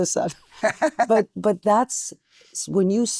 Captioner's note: laughing